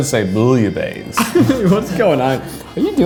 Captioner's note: laughs